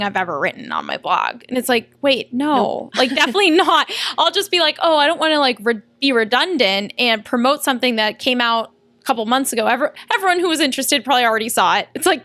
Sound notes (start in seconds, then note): 2.9 laughter